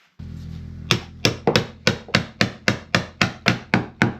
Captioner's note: hammering